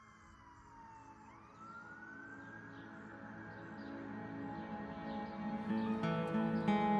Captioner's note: birds chirping; soft somber music; melancholic music